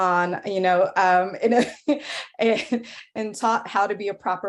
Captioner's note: laughs